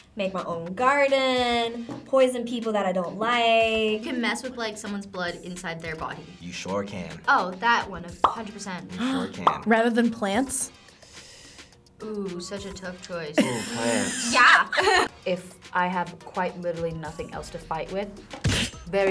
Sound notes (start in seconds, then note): 13.4 laughs